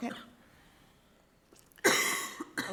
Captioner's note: female coughing